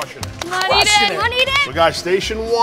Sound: claps

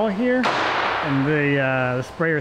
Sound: hammering

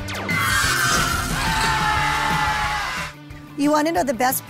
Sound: lasers shoot; kids scream

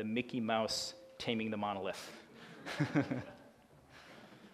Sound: laughing

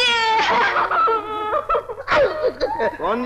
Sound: crying

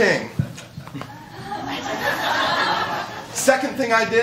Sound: laughter

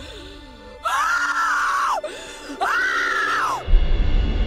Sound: screams

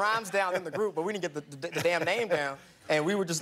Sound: laughter

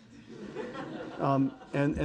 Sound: audience laughing

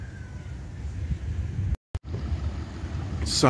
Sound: wind rustling

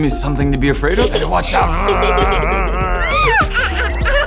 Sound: giggles; roars

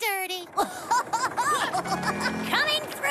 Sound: Muck Laughing

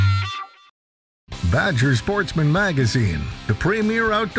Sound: voiceover

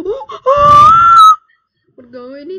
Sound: screams loud

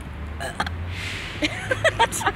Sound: burp; laughs

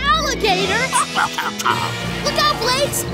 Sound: chomping

